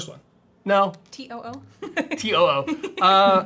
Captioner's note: laughs